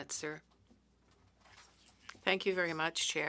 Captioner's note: speaking French